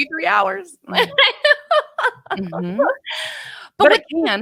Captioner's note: laughing